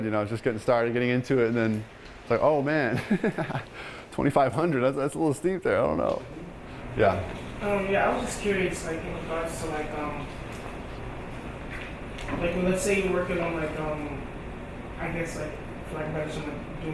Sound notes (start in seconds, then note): 2.9 laughing